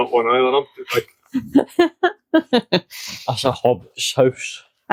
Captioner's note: laughter